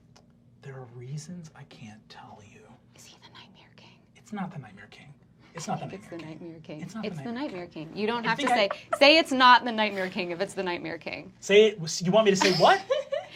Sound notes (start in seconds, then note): 3.2 whispers